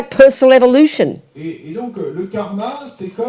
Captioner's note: audience member speaks in French